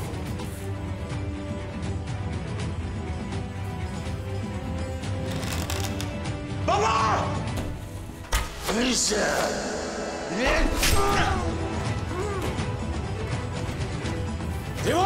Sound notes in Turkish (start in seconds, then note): 8.2 Ok Sesleri